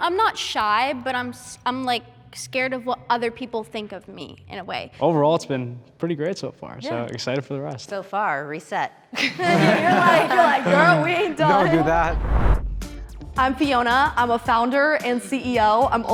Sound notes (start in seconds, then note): 9.2 everyone laughing